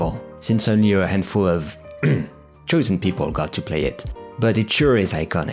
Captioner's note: clear throat